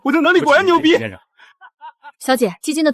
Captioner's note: laughs